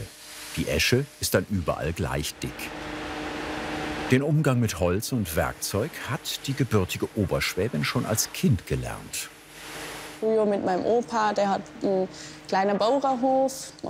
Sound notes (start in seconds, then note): 2.7 machine noises